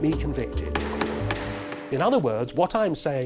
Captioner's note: gavel banging